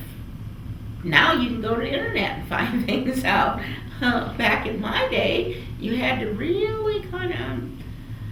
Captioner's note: laughs